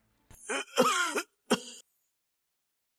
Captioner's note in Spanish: Cof, cof